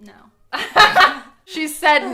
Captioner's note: laughing